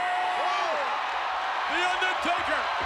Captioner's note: audience cheers